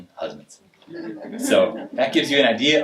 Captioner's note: audience laughing